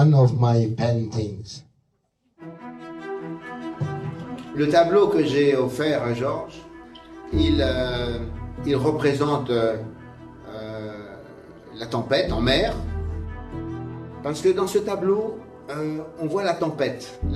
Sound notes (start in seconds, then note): 5.2 speaking in French; 13.2 speaking in French